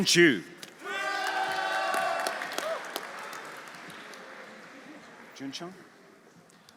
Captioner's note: audience cheering; audience applauding